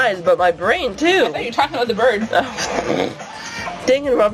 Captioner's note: laughs